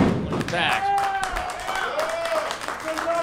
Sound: clapping

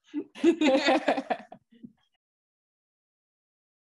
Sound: laughing

